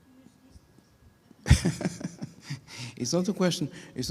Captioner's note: laughing